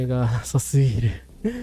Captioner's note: laughter